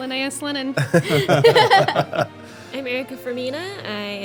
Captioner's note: laughing